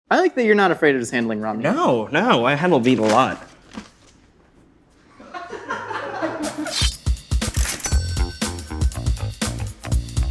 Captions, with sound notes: - I like that you're not afraid of just handling raw meat. - No, no, I handle meat a lot. (crew laughing) (upbeat funk music)